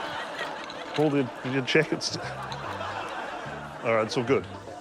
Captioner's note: laughter